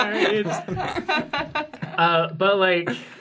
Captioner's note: laughing